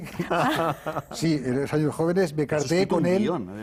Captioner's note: ríen